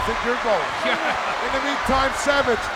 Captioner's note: Alfred laughs